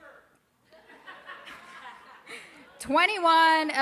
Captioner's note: crowd laughing